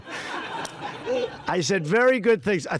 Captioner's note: laughter